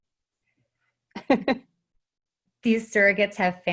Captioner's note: chuckling